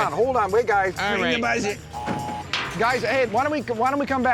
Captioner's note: intercom buzzes